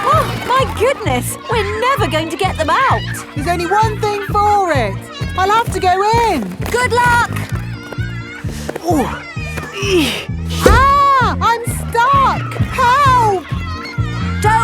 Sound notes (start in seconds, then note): 0.0 giggling; 8.9 grunting